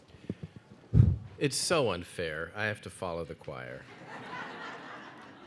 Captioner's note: blows; audience laughs